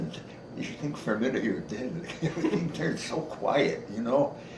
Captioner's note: chuckles and spans out arms